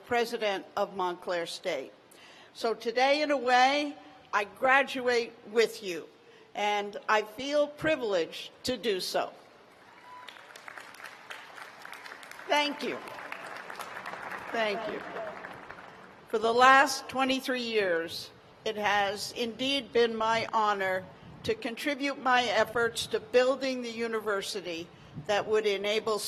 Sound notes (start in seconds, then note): 10.3 cheers and applause